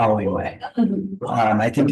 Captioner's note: attendees laughing